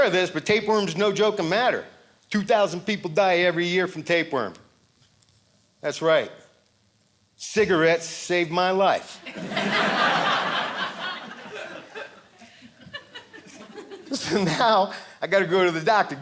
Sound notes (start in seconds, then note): 9.2 audience laughing